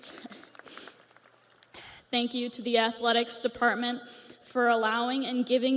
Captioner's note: audience applauds